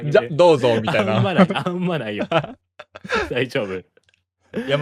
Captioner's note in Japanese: 笑い; 笑い